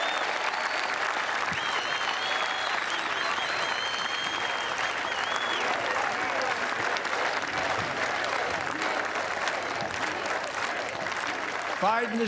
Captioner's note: cheers and applause